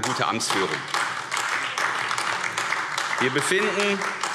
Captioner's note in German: Beifall AfD